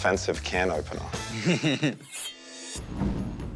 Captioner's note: laughter